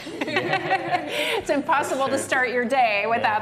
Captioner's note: laughter